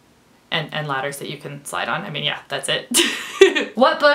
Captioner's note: laughs